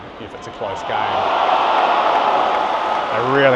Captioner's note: crowd cheering